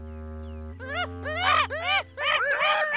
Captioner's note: chittering